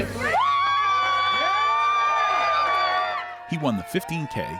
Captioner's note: attendees cheering